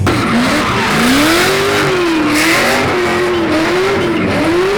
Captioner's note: laughing; car engine roaring